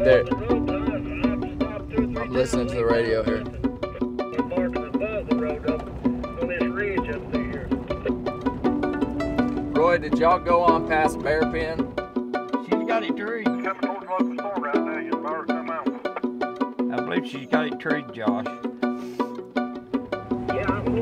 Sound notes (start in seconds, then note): 0.1 radio chattering; 7.2 man On Radio; 12.7 radio chattering; 20.4 radio chattering